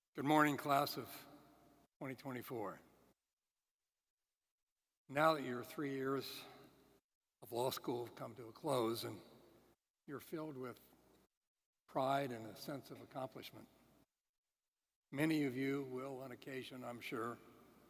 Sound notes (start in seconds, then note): none